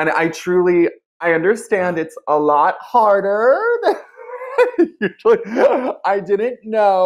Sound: laughing

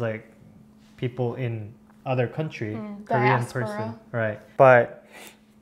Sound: Korean

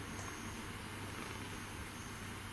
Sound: none

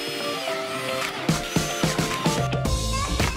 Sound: drilling

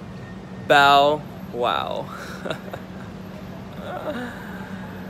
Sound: chuckles

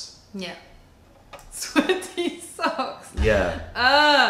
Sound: laughter

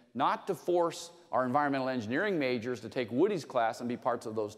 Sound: none

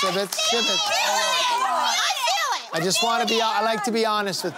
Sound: shouting

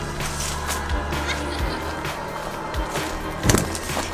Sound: laughter

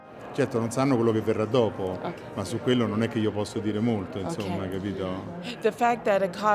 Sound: speaking in Italian

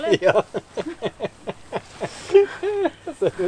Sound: laughter

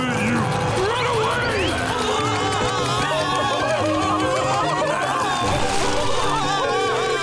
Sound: screaming

